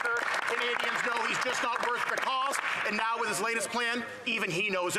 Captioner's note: some Applause